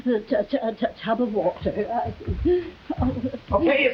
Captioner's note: Veta stammering